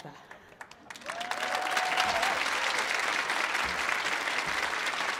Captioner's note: audience applauding